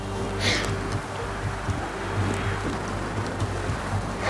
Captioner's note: wind whooshes